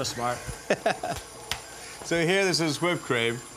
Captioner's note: Ming chuckles